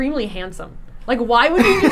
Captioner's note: laughing